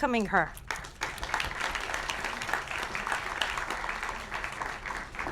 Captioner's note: applause